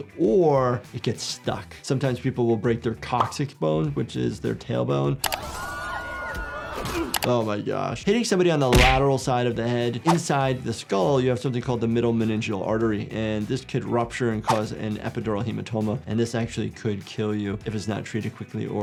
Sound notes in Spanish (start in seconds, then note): 5.3 gente gritando